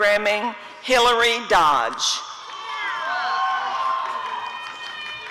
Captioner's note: audience cheering